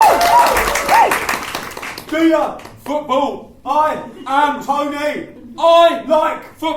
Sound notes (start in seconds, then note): 0.0 cheers and applause